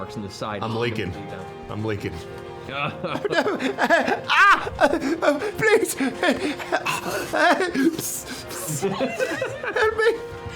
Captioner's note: yelps